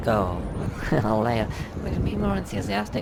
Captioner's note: chuckles